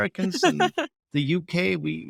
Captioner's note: laughing